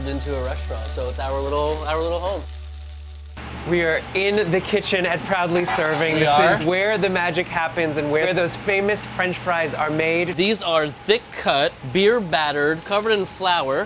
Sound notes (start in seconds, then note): 2.7 pan sizzling; 3.6 motor whirring